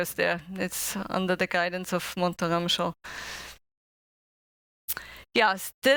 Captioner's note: non-english speech